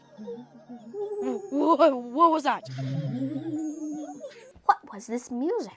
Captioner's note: jumbled giggling and muti-toned vocalizations; jumbled giggling and muti-toned vocalizations continue